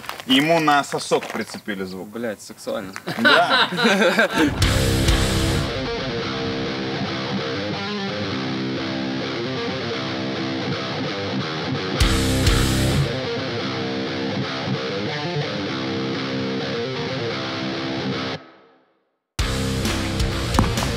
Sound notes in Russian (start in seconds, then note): 3.0 смеется